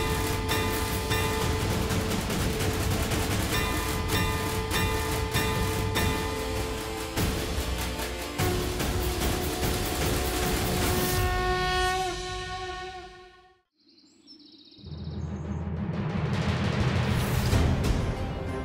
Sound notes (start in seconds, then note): 8.2 conch shell blowing; 15.0 dramatic music